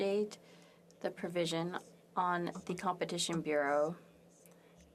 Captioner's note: speaking French